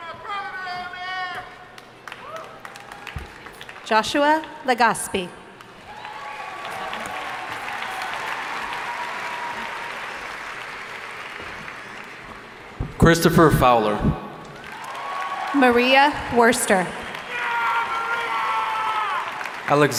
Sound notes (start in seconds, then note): 5.6 audience applauding; 14.5 audience applauding